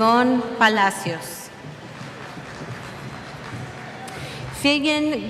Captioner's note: cheers